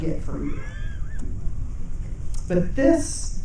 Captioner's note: audience chuckling